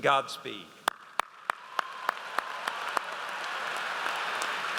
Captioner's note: audience applauds